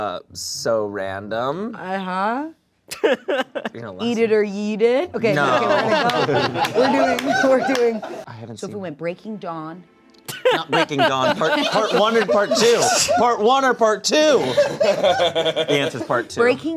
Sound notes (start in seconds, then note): 2.9 laughing; 14.3 laughing